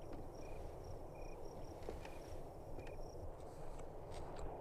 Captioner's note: wind Blows